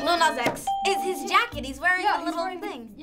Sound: ding

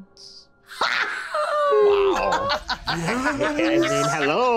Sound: Isabella laughing

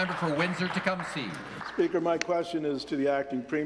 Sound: applause

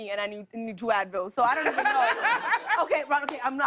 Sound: laughter

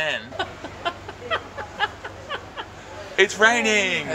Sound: laughter

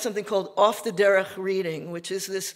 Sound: speaking Yiddish

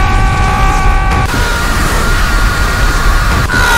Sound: Tyler1 Scream

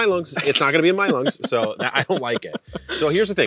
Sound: laughs

